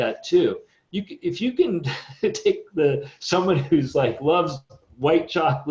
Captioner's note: chuckles